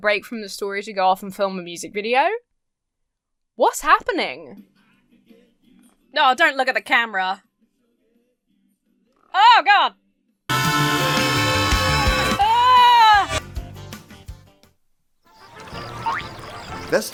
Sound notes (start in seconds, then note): 10.5 Carp screams melodically; 15.3 crickets chirping; 15.4 buoyant music